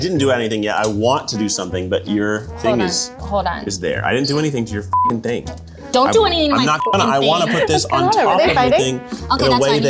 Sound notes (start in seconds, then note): 4.9 beep; 6.6 beep; 6.8 laughing